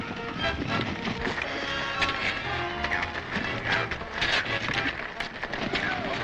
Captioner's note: blades clashing and clanking